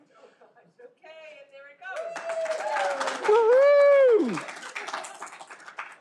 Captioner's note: all applauding